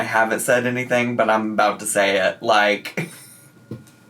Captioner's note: laughing